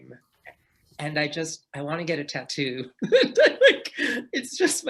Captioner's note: laughs